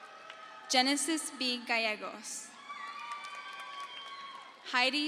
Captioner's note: crowd cheers